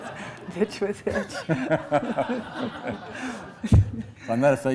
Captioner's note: laughs